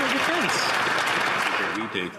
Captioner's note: some Applause